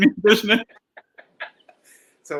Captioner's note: laughs